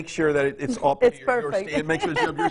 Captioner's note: laughing